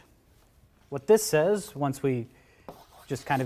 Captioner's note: chalk scratching